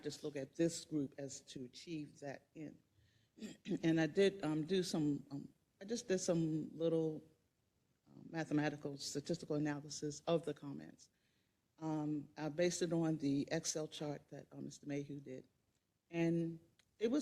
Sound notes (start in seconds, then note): 3.3 cough